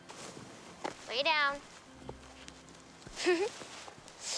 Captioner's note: chuckling